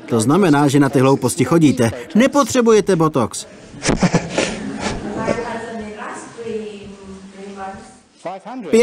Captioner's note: audience member speaking